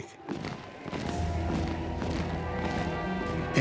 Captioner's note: marching, soldiers shout